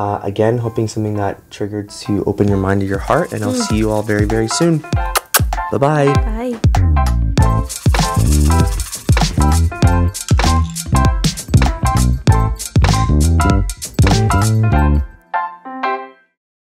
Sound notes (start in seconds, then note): 5.0 kisses; 7.4 upbeat music